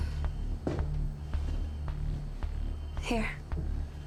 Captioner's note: dramatic music; alarm blaring